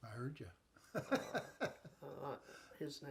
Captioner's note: chuckling